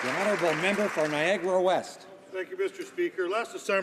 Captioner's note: some Applause